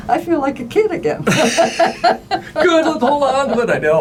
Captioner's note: laughing